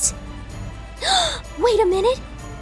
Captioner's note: gasps